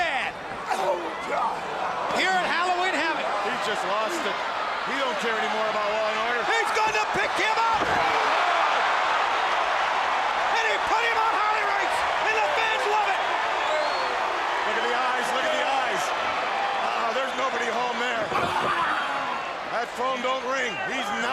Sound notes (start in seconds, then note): 8.0 crowd cheering; 13.9 crowd cheering; 16.1 crowd chatter